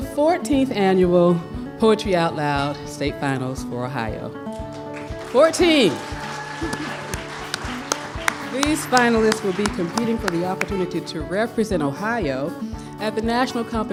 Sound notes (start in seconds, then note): 4.8 cheers and applause